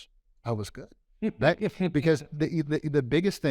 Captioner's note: laughs